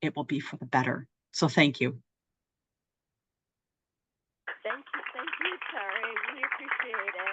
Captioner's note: applause